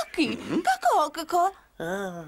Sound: clucks

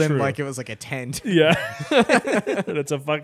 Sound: both laughing

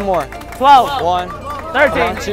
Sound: crowd clapping hands

